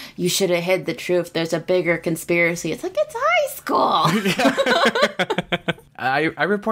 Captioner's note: laughs